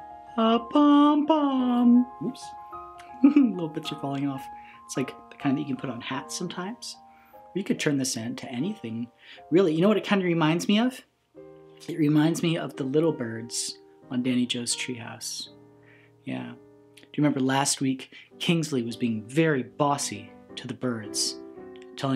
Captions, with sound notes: a pom pom! Whoops. (laughs) Little bits are falling off. It's like the kind that you put on hats sometimes. Or you could turn this into anything really. You know what it kind of reminds me of? It reminds me of the little birds on Danny Joe's Tree House. Yeah. Do you remember last week? Kingsley was being very bossy to the birds.